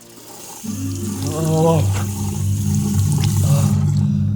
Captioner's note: water splashing; ominous music